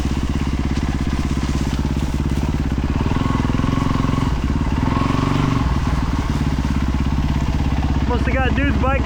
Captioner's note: engine roaring